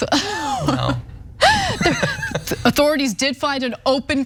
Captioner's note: laugh